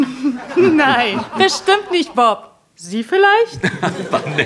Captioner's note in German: lacht